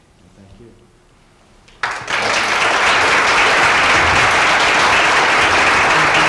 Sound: applause

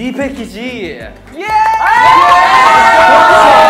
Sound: screaming

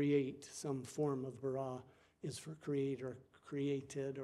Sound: speaking foreign language

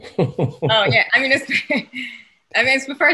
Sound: laughs

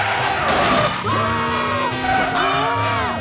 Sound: screaming

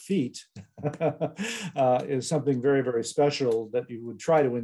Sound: laughs

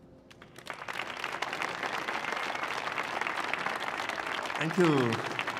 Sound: applause

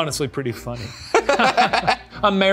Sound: both laughing

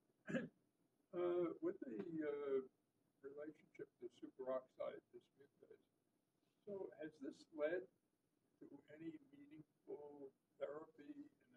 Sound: off microphone

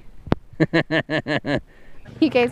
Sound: laughing

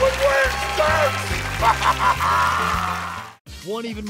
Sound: laughing

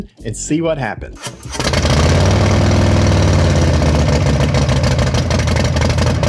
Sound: motorcycle engine roaring

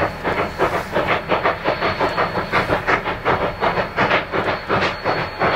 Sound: faster chugging

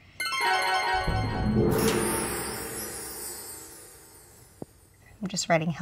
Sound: chimes glisten; gong rumbles

